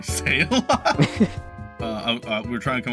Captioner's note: both Laughing